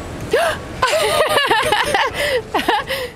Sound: laughing

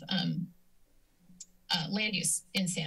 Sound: silence; clicks tongue

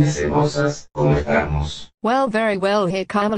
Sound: my Robot Voice xd

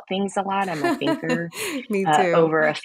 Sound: laughs

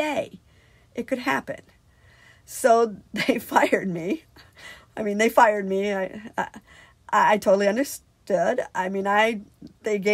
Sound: laughs

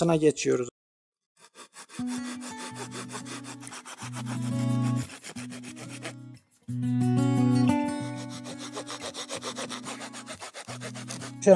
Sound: saw cutting sound and background music

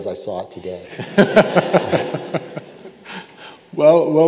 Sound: both laughing

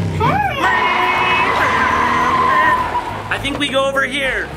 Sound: car driving

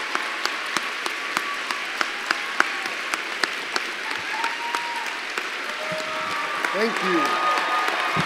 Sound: applause

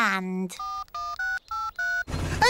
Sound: dialing

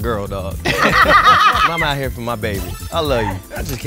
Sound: laugh

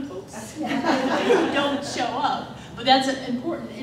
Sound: laughter

